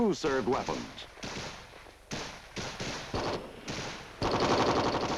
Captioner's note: guns firing